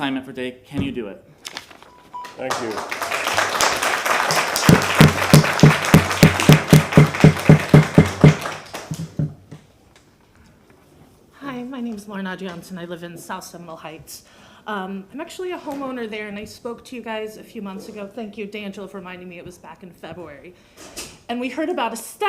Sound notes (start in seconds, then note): 8.1 applause; 9.0 gavel sounding